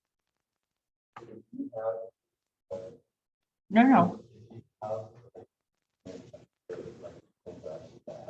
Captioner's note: background chatter